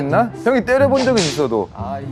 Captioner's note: slap